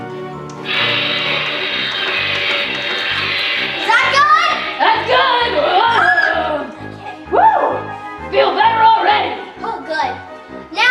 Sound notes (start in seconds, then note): 0.5 electricity buzzing; 7.3 Franken exclaims